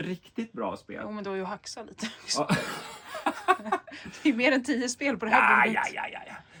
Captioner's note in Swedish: skratt